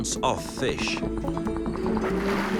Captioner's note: dolphins clicking